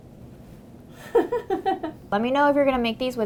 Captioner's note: woman laughs